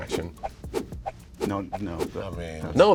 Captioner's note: whooshing